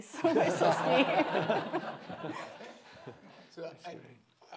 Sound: laughing

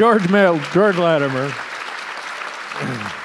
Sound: audience applause

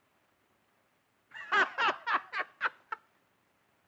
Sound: laughing loudly

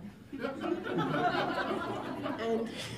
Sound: laughter

